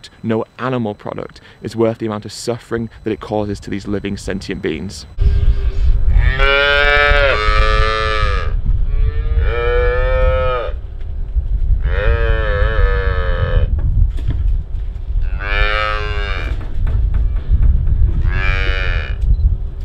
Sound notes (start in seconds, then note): 5.0 calves crying